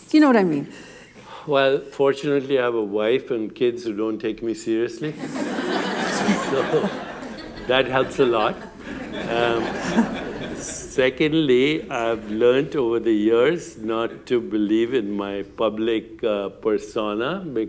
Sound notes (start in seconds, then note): 5.0 laughter